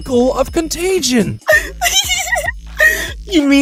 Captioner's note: giggling